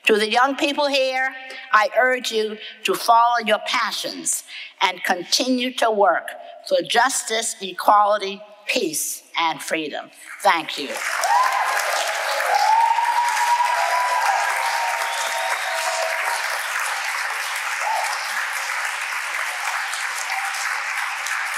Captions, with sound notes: To the young people here, I urge you to follow your passions and continue to work for justice, equality, peace, and freedom. Thank you. (audience applauding)